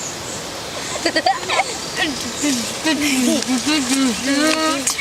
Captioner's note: giggling